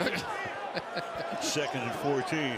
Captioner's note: laughs